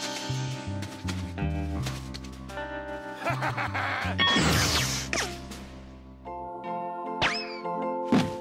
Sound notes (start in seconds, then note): 3.2 laughs